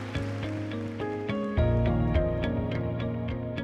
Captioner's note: cheering; mellow instrumental music playing